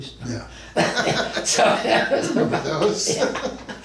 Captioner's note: both men laugh